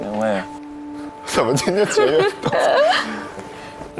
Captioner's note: crying